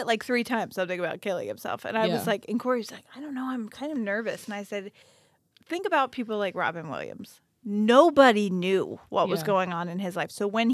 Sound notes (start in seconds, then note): none